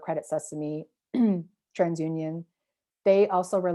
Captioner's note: clears throat